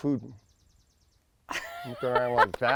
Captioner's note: laughter